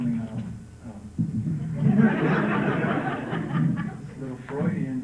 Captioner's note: laughter